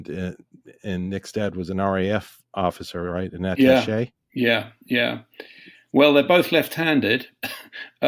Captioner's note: laugh